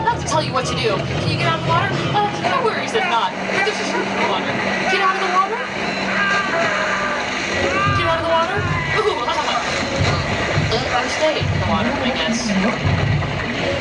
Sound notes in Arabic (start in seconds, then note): 6.1 شخص يصرخ